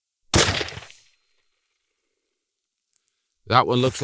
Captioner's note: gunshot